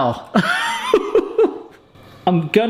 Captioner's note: laughing